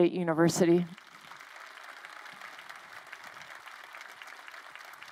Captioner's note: crowd applauding